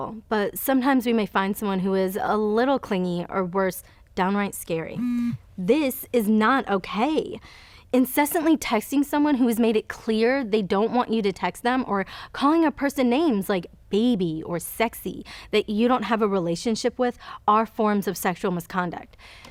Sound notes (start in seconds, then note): 5.0 phone buzzes